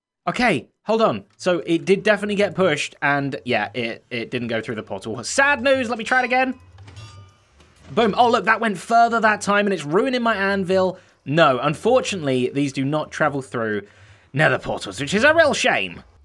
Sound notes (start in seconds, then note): none